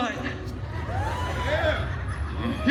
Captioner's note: some guests cheering